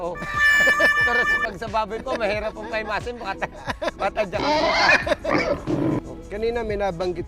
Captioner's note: laugh; laugh